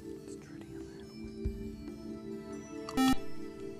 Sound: whispering; buzzer

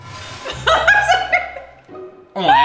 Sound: laughing

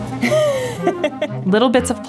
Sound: laughing

